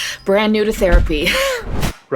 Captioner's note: flashback sound